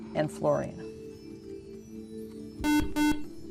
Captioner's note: buzzer